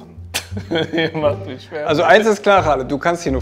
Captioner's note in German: lachend